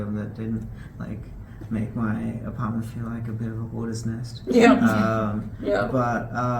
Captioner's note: laughs